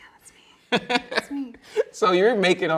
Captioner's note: laughing